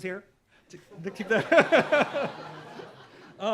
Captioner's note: laughter